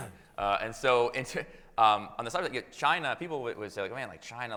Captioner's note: chuckles